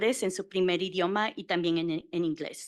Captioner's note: Spanish